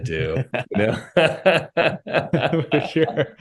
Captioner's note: both laughing